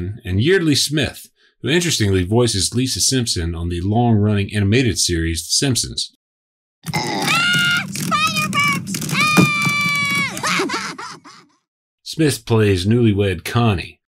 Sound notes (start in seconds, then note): 9.1 Lisa screaming; 9.1 boys laughing